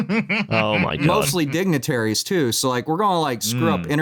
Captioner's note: laughs